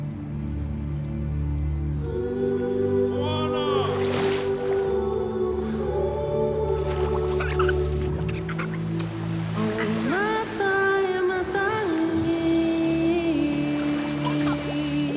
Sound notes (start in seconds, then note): 6.9 laughing; 9.4 upbeat music